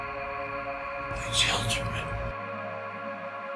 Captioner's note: voiceover